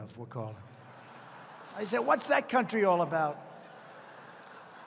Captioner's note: laughter